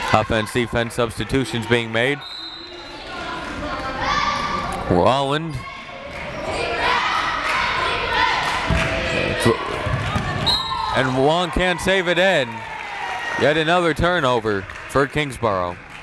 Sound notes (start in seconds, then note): 7.6 crowd chanting defense